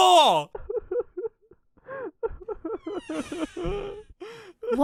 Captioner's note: weeping